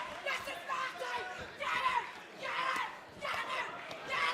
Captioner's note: cheers and applause